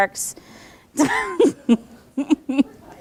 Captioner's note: laughing